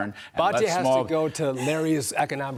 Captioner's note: laughter